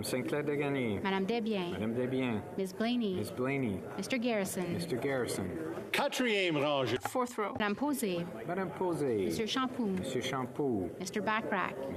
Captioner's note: calling of recorded vote